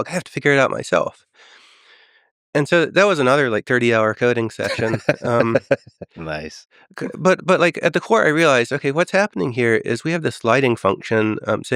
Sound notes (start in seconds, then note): 4.6 Lex laughing